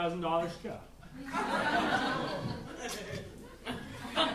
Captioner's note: audience laughing